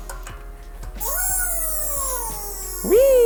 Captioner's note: tool squealing